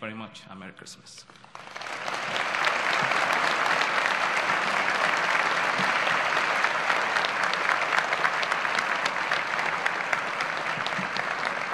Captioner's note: applause